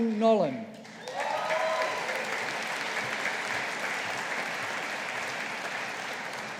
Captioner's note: audience applauding